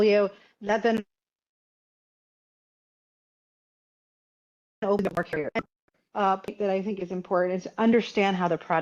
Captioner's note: audio cuts out